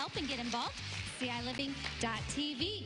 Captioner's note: applause